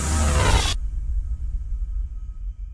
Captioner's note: glitch